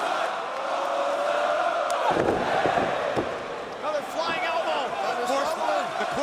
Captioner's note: crowd cheering